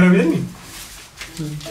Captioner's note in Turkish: Kağıt sesleri